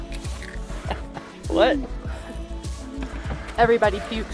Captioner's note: laughter